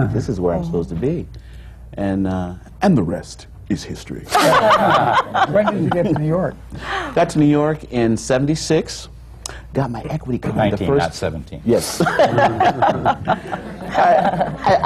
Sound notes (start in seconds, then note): 1.5 puts on a mock serious tone; 4.3 laughter; 11.9 laughter